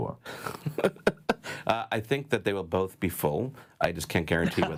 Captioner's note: laughs